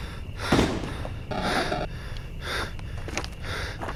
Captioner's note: distant gunshots